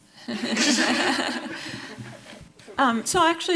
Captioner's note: audience and panel laughs